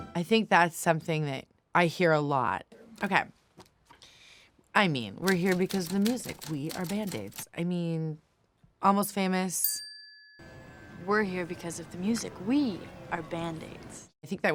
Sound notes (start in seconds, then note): 9.7 tone dings